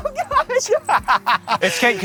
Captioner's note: laughs